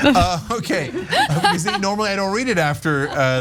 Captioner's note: laugh